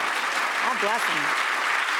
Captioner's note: audience claps